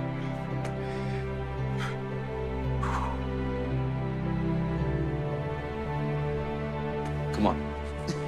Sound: sniffs

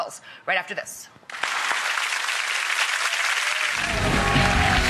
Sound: applause; upbeat music

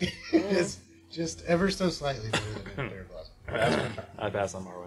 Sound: laughing

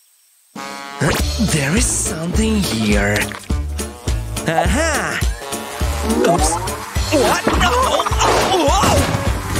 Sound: moaning

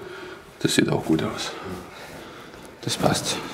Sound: groaning

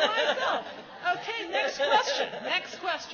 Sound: laughs

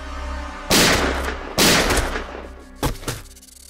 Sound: gun shots

